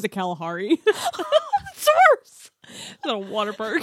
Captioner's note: laughs